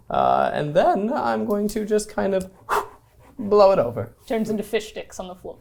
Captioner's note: blows